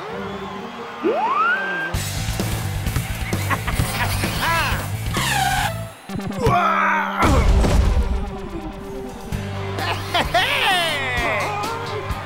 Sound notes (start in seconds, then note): 3.4 laughing